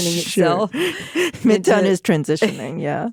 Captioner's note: laughing